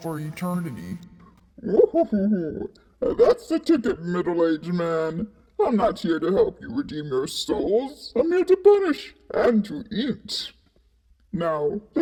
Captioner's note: chuckles